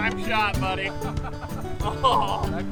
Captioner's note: laughter